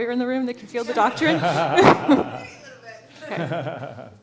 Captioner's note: laughter